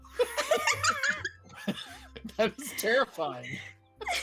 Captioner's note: group laughing